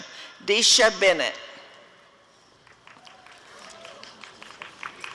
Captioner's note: applause and cheering